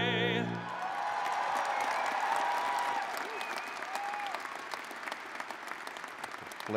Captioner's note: cheers